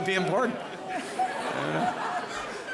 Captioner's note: laughter